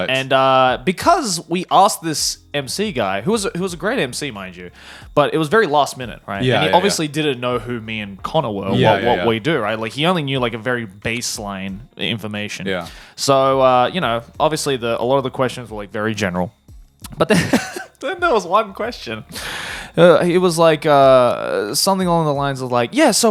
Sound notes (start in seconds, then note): 17.2 chuckles